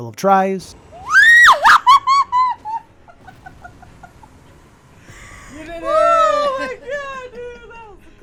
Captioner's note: cheering/screaming